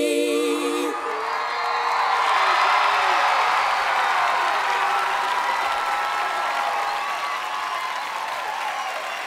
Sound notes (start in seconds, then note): 0.8 audience cheering; 1.1 audience clapping